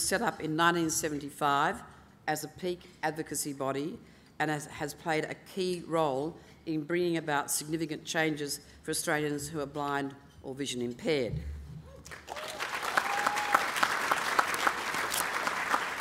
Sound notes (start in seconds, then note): 12.0 applause